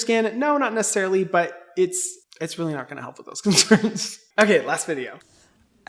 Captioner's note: laughs